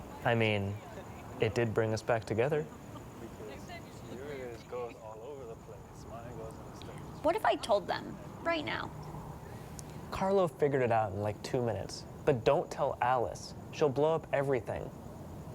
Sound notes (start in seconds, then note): 2.8 distant chatter